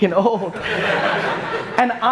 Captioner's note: audience laughter